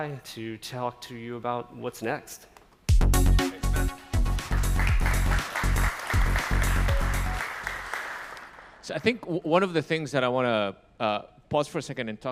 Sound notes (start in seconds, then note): 2.9 upbeat music; 4.2 audience clapping